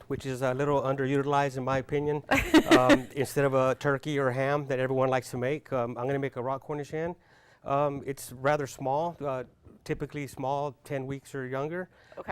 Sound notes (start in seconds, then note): 2.3 laughing